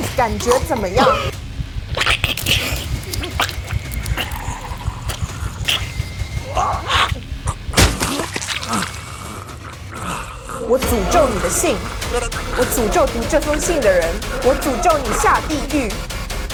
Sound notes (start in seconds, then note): 1.0 Mandarin language; 1.9 gurgling and choking sounds, fighting for breath; 4.6 intense music continues; 7.9 chest cavity explodes as heart ruptures; 11.7 Mandarin language; 13.2 Mandarin language